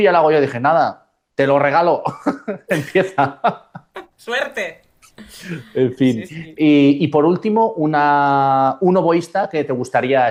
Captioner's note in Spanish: risas